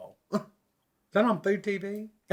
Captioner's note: scoffs